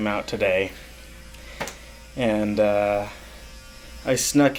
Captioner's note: slaps his legs